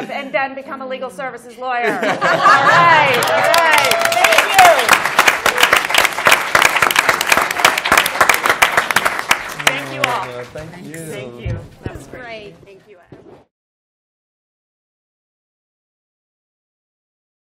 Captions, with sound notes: And then become a legal services lawyer. [LAUGHTER] All right. Thank you. [APPLAUSE] Thank you all. Thank you. That was great.